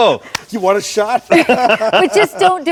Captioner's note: laughs